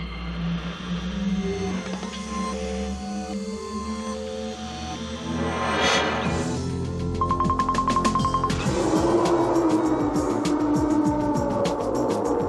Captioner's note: VIRTUALITY 2000 advert sounds